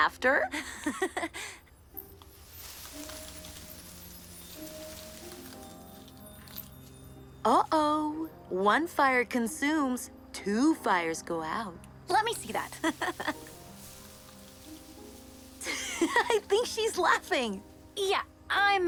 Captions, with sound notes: Will Jessa and Braxton live happily ever after? [leaves rustle] Uh oh. “One fire consumes. Two fires go out.” -Let me see that! -[Mischa laughs]